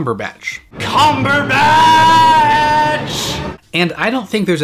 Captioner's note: dramaicatic yelling